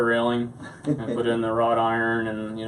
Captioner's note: laughs